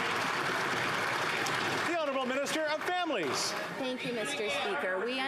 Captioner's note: applause